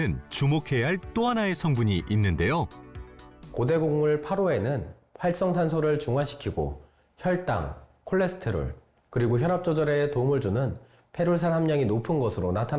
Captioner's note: voiceover